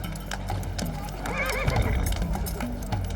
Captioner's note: horse whinnies